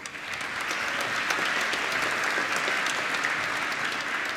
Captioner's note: applause